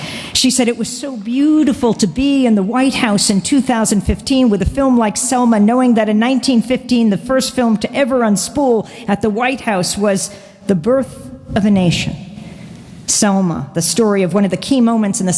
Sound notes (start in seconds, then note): none